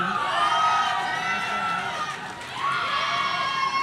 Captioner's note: audience cheering